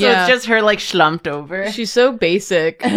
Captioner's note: laughs